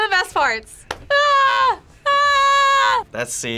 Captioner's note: yells